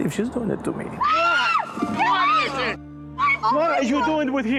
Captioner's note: screams